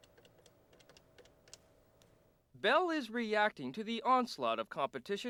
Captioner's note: buttons clicking